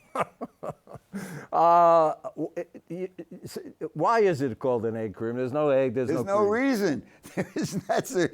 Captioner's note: laughs